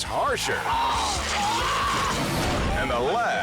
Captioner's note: person screams